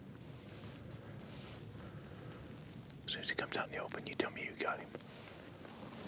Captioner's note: whispering